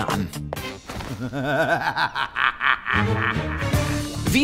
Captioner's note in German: Böses Ingamelachen